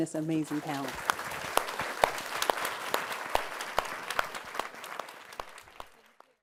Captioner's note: applause